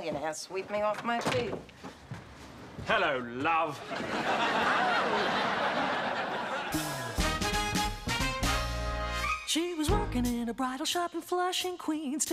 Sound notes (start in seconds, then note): 2.8 in British accent